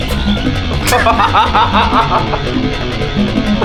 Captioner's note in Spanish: Risas